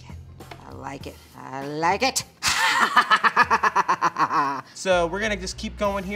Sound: laughs

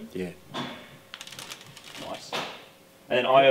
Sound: wires rattle

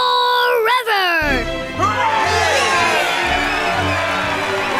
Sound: cheering

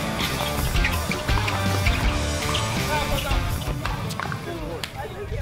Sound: aggressive rock music; sneakers screeching

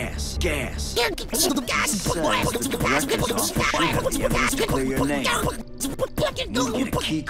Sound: beatboxing

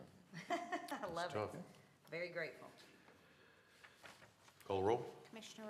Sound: laughter

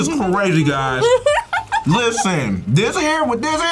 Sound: laughs

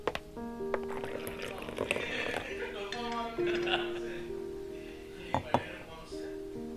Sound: Both Vijitha and Saliya laughing

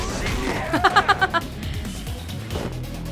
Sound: chuckles

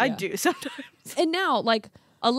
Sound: laughs

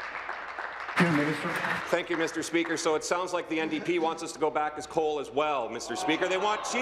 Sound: applause

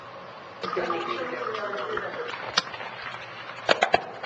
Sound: chattering

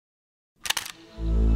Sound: shutter sound

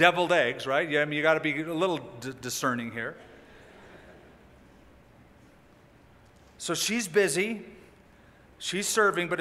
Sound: laughter

